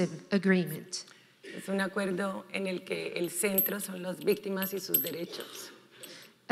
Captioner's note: speaking in foreign language